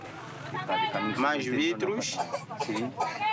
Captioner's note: Portuguese spoken audio